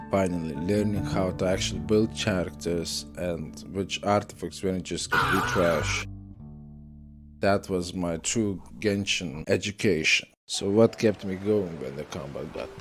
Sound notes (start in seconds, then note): 5.1 insert screaming